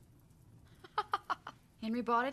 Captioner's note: laughing